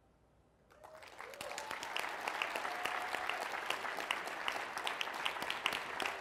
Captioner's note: applause